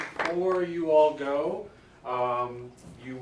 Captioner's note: all clapping